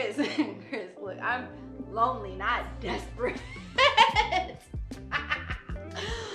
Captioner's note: laughs